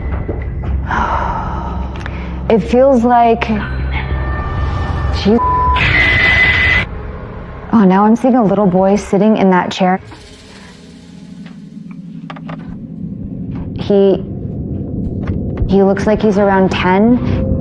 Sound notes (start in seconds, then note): 0.2 Cindydy e exhxhales; 5.8 statitic c noisise